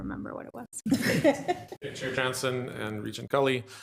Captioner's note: attendees laughing